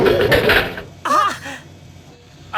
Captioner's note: gasp